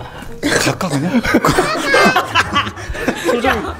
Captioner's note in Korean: 웃음